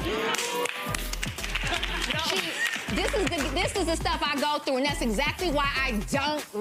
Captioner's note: clapping